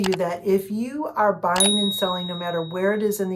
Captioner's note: ding